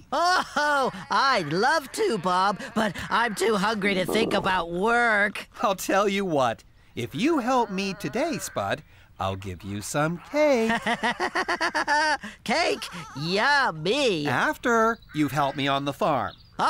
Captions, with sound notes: OH-HO, I'D LOVE TO, BOB, BUT I'M TOO HUNGRY ( Stomach Growls ) TO THINK ABOUT WORK. I'LL TELL YOU WHAT, IF YOU HELP ME TODAY, SPUD, I'LL GIVE YOU SOME CAKE. ( Laughing ) CAKE! YUMMY! AFTER YOU'VE HELPED ME ON THE FARM.